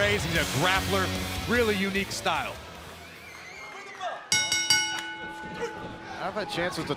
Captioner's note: bell ringing